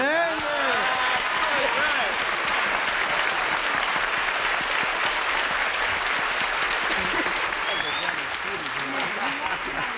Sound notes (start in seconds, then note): 0.0 applause